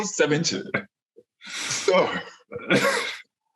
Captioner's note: laughs